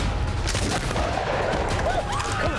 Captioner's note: gunshot